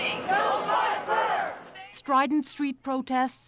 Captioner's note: chanting